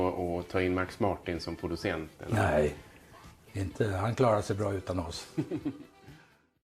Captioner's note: laughter